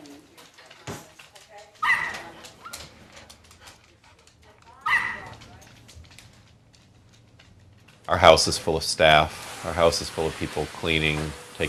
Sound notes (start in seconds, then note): 4.6 dogs barking; 4.6 indistinct chatter